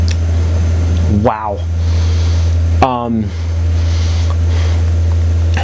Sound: sips

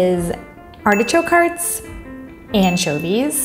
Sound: bell dinging

